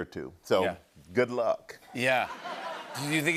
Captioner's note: laughter